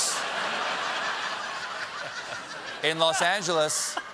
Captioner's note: laughter